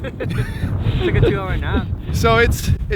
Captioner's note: laughs